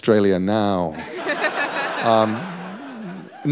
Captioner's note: laughter